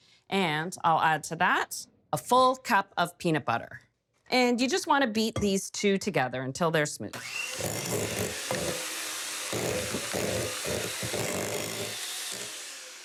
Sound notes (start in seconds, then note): 7.1 mixer whirring